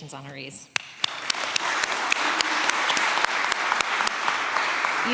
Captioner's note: applause